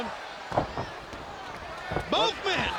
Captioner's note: Rey Jr thuds